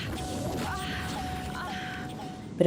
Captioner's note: alarm